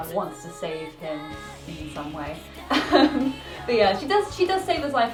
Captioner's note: laughs